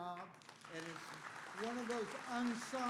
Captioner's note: applause